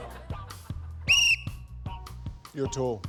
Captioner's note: blows whistle